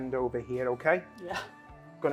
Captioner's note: laughs